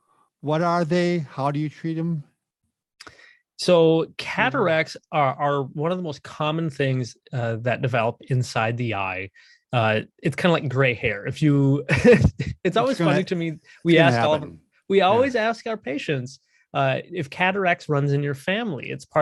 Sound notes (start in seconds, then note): 11.8 laughs